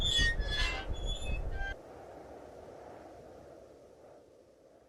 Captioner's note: wind blowing